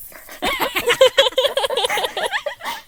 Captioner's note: hosts laugh